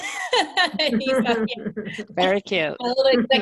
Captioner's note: laughing